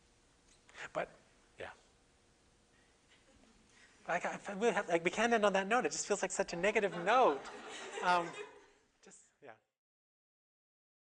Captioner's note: audience: Laughter